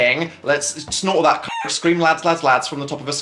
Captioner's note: rooster crows